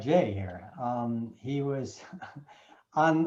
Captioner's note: chuckling